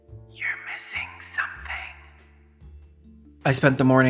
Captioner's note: whispered